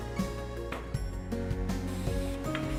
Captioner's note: gentle music continues; metal board thuds; drill whirring